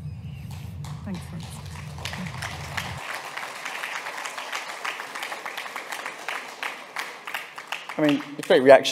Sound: applause

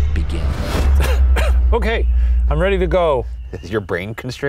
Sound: coughs

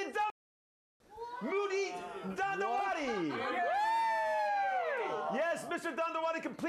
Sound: audience cheering

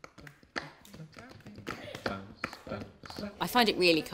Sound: hands clapping

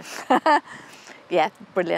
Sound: laughs

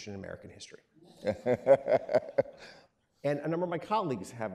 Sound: laughing

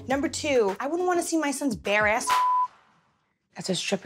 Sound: beep

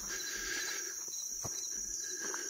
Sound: footsteps

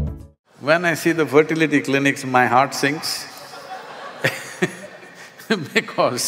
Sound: laughter

